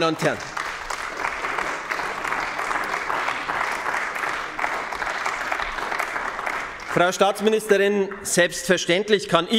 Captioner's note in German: Beifall bei den GRÜNEN